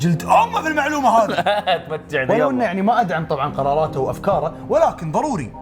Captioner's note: chuckles